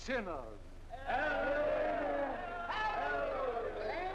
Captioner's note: crowd